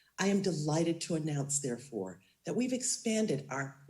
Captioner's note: none